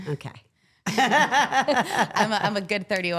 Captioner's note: laughs